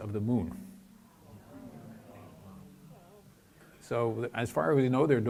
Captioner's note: audience exclaims